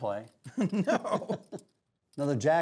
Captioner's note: laughs